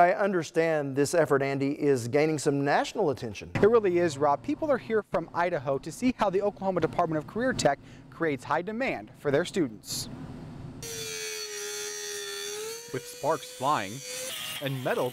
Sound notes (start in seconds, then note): 10.8 grinding metal